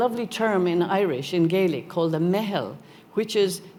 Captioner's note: speaking Gaelic